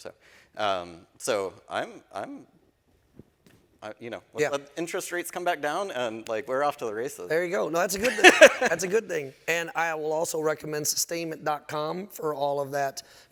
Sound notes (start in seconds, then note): 8.0 laughing